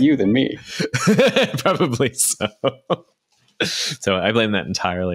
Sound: laughs

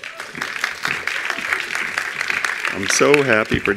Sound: attendees applauding

